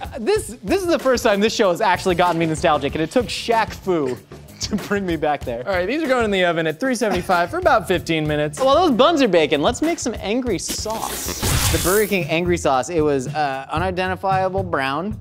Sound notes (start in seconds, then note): 10.9 laser sound